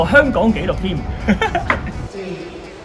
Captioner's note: laughing sincerely